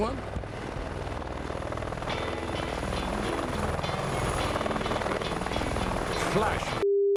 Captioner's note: helicopter engine whirring; upbeat music